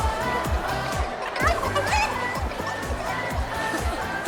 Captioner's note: clucking chicken; laughs